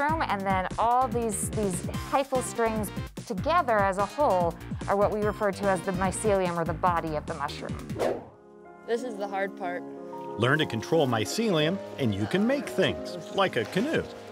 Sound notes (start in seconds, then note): 7.9 air whooshes